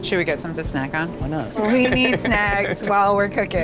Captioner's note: laughs